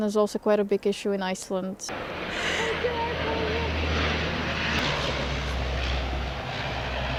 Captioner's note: airplane is passing